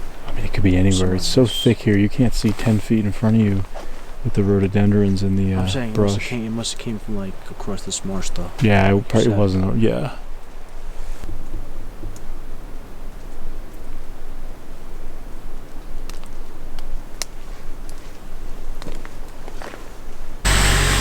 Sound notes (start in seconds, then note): 12.3 wind fluttering